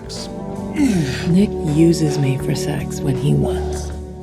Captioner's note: grunts